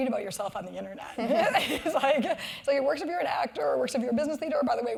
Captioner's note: laugh